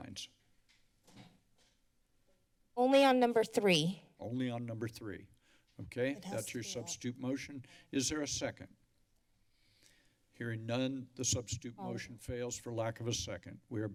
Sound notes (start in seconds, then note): 9.3 silence